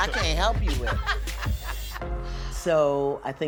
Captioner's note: laughing